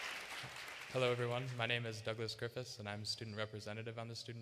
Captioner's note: applause